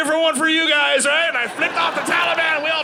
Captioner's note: audience laughing